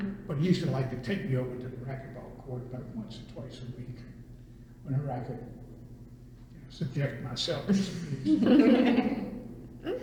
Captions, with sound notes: but he used to like to take me over to the racquetball court about once or twice a week, whenever I could, you know, subject myself to his abuse. [laughter]